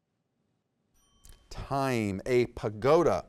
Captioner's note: timer chimes